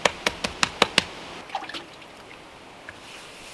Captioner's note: patting